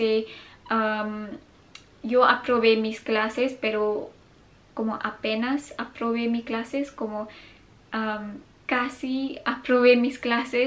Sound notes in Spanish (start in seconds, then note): 3.6 french